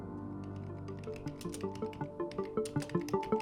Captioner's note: keys clicking; gentle mysterious music